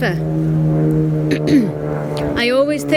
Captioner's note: plane engine roaring; coughs